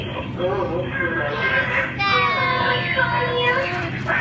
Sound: woman on intercom; child wails; intercom: sensual moaning

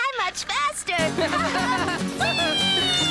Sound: laughter

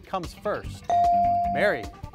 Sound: device dings

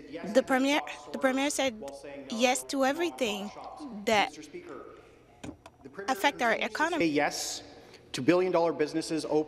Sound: speaking French

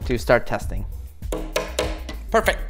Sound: hand taps

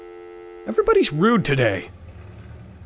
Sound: dialtone

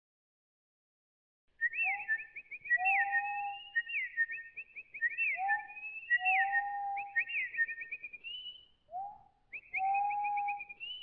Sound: singing birds

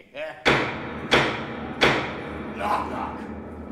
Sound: knocking

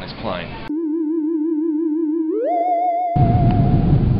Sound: sci-fi sound

